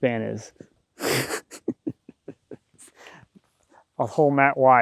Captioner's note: laughing